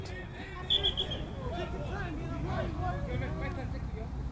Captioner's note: whistle